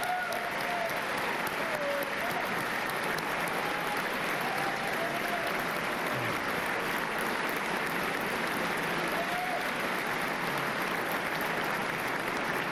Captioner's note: applause and cheers